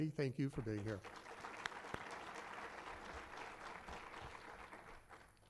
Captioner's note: applause